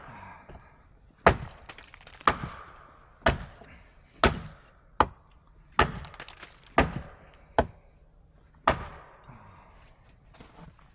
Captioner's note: sound of chopping wood